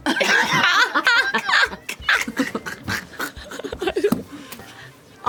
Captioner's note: laughter